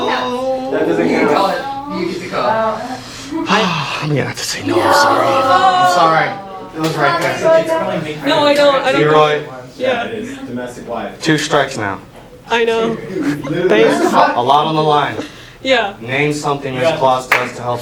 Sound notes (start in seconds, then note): 3.5 sighs